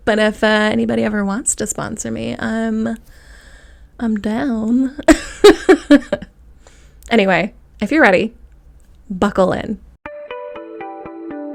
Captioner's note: laugh